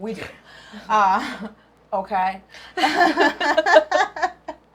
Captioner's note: they laugh